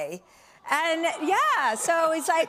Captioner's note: audience aws